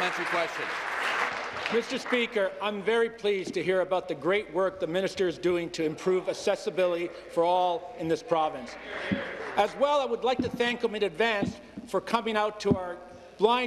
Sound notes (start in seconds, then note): 0.0 applause